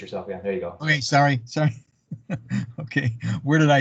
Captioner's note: laughs